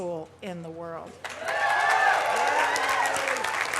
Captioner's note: cheering, applause; applause